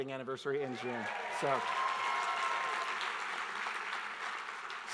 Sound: audience applauds

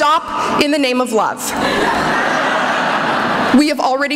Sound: laughter

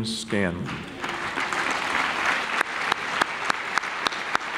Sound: clapping

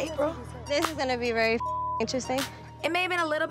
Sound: beep

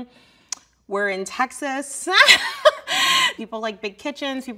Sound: laughs

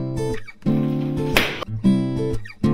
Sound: balloon bursts

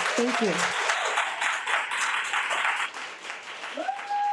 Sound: audience applauding

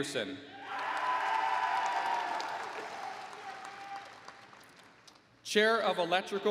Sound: applause

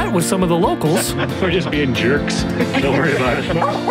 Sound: laughter

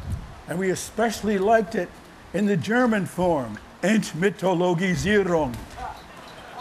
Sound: german; laughter

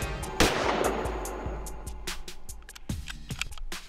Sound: gunshot

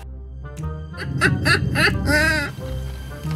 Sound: laughing

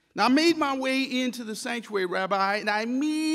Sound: none

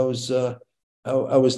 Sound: none

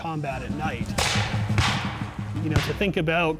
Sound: gunshots

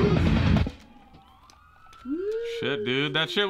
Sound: track stops, sirens in the background

